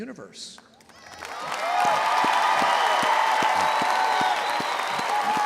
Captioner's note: audience applauding and cheering